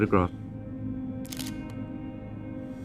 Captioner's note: camera clicks